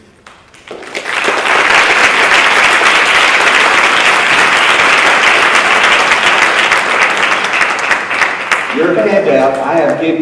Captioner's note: applause